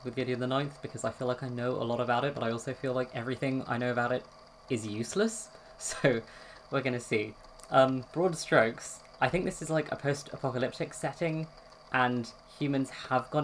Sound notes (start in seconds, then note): 5.7 laughs